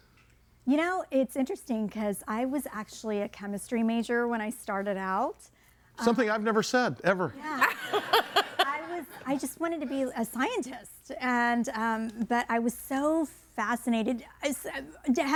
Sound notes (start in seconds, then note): 7.6 audience laughing